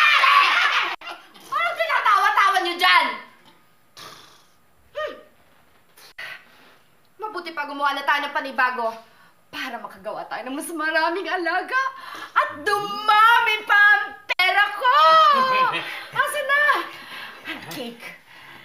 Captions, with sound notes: Hey! What are you laughing about? -[blows] -Hmm! Let's make some more so we can have more pets and I can earn more money! Where is the cake?